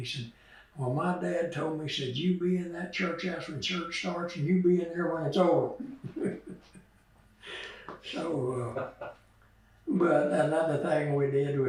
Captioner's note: laughter